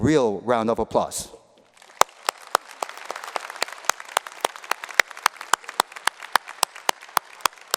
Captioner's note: applause